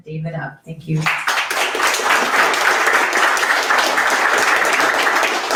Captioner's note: audience applauds